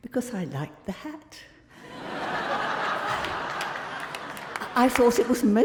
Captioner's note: crowd laughing